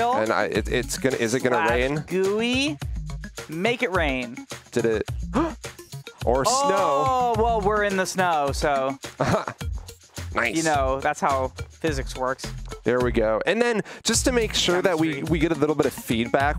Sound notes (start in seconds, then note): 5.3 gasps; 9.1 chuckles